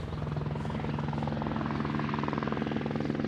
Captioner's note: helicopter whirring